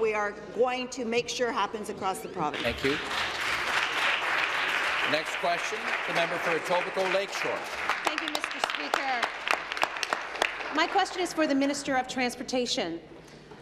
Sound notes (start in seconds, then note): 6.6 applause